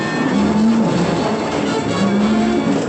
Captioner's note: thunder